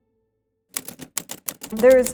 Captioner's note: letters clacking